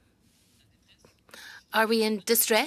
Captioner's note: speaking French